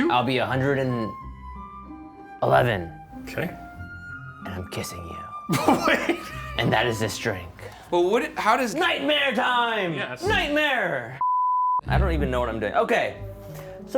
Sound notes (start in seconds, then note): 5.5 laughing; 11.2 beeping